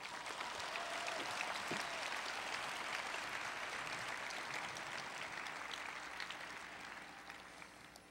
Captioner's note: applause